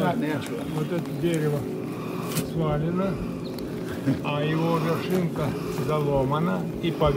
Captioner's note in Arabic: يتحدث ايغور بلغة أجنبية